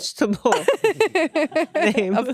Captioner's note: laughing